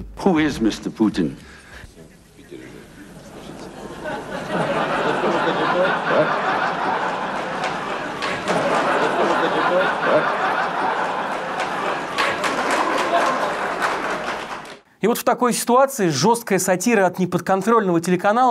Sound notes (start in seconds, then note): 7.7 laughter; 12.3 applause